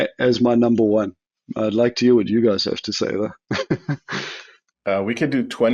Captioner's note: laughs